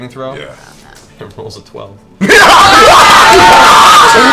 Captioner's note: all cheer